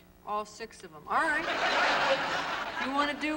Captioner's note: laughter